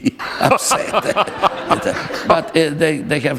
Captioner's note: laughter